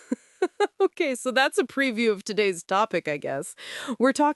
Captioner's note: laughing nervously